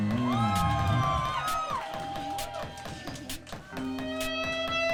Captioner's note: audience cheering